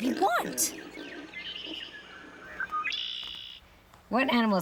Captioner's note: birds chirping